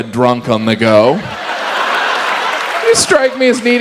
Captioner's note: audience laughs